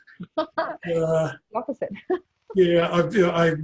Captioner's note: laughs